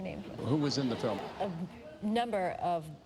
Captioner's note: laughter